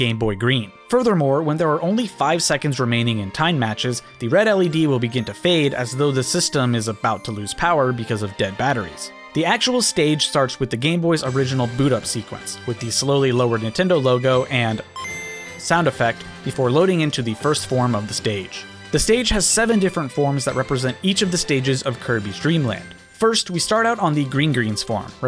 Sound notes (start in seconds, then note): 13.3 Game Boy ding